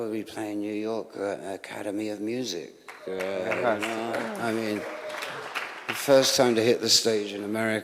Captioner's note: laughter